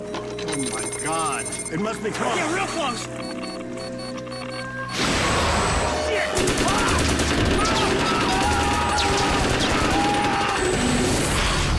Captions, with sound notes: Oh, my God, it must be close. Yeah, real close! (Beeping) Shit! (Gunfire, panicked shouting)